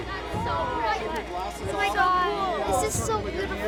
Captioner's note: people talking, exclaiming in background